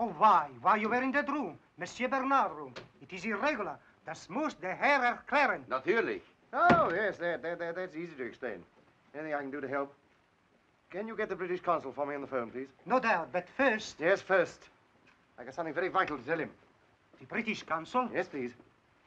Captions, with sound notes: - Oh, why, why you were in that room, Monsieur Bernard's room. It is irregular! (speaking in German) - Oh, yes, that, that's easy to explain. Anything I can do to help. Can you get the British consul for me on the phone? - No doubt, but first-- - Yes, first. I've something very vital to tell him. - The British Consul? - Yes, please.